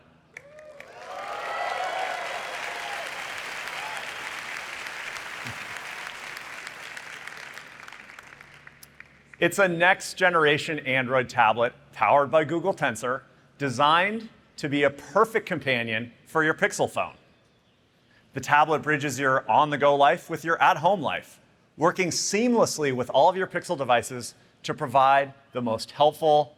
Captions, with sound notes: that we wanted to bring you all into the loop. So here's a first ever look at our new Pixel tablet. [APPLAUSE] It's a next generation Android tablet powered by Google Tensor designed to be a perfect companion for your Pixel phone.